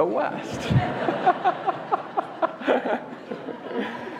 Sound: laughter

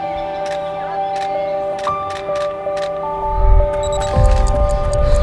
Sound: soft piano music; camera clicks; watch ticking

